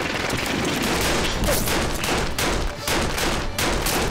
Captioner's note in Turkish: Silah sesleri